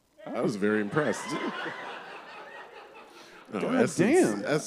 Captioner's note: laughter